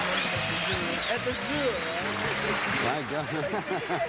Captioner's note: laughs